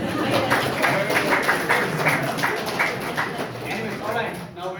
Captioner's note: crowd applauds